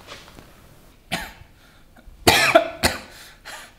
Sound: coughs

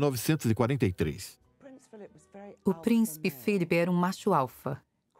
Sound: voiceover

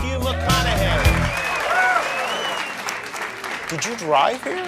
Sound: audience cheers

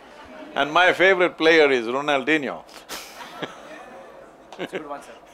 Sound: laughs

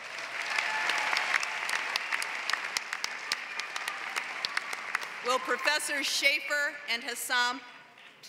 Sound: applause

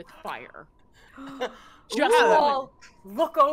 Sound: players gasping

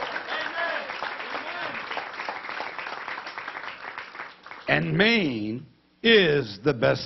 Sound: applause

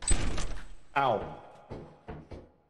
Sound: open doors

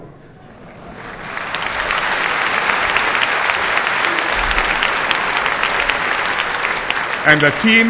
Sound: applause

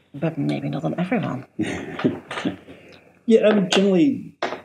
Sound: laughs

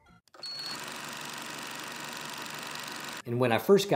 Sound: projector running

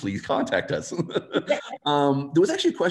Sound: laughs

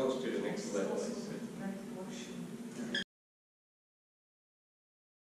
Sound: blonde woman mumbling

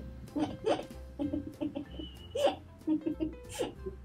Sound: laughing

